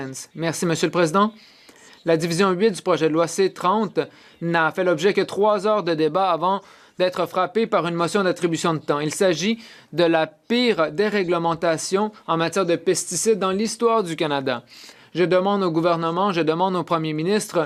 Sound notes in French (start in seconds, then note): 3.1 voix de l'interprète